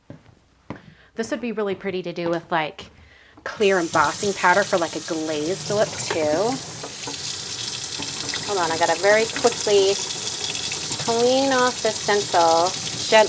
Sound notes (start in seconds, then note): 7.0 water running